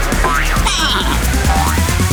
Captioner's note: baaing